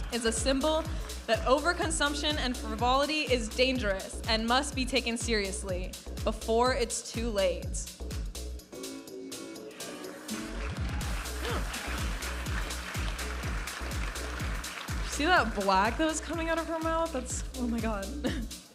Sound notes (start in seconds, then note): 8.1 upbeat music; 10.2 audience applauding